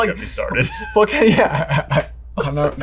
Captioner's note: chuckles